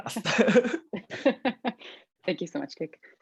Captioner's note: laughs